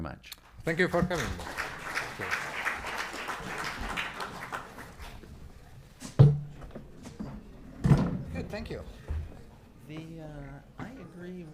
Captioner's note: applause